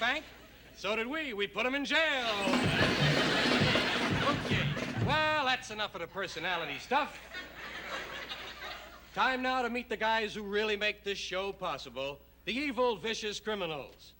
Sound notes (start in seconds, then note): 2.4 laughter